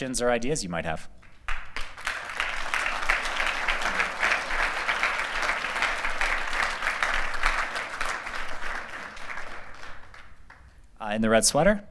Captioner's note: applause